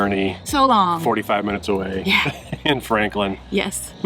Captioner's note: laughs